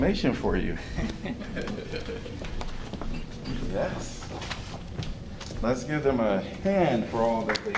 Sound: laughter

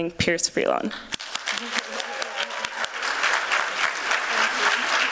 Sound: applause

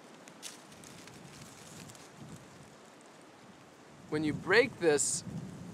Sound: rustling sounds

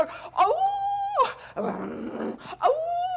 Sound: Sharik softly howling; Sharik softly growling and howling

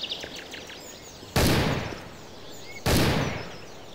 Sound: gunshots

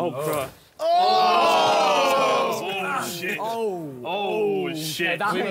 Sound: all cheering

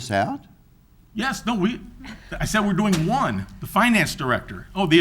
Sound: sighs

